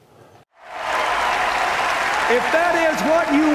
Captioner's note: applause